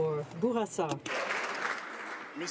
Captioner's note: some Applause